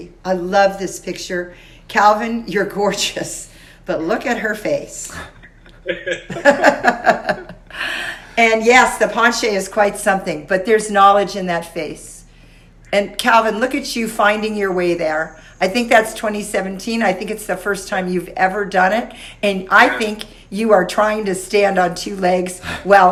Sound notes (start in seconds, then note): 5.1 all laugh